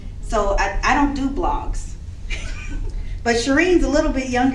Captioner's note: laughs